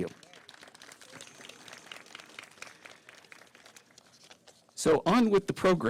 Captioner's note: applause